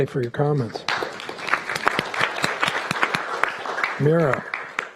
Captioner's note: applauding